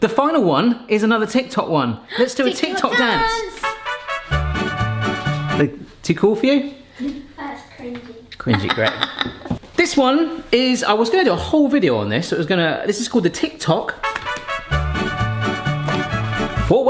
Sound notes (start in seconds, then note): 2.7 lively upbeat music; 8.4 laughing; 14.0 lively upbeat music